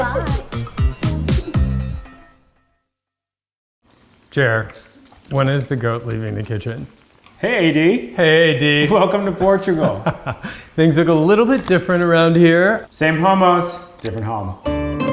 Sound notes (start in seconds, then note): 9.6 laughs; 14.6 cheery Spanish music